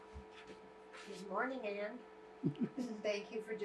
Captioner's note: laughing